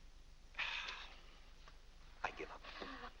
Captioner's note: exasperated sigh